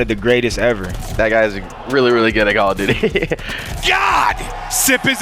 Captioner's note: laughs